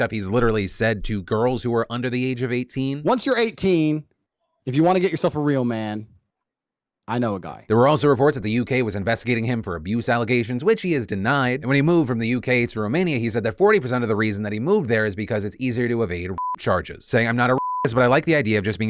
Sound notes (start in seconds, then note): 17.5 beep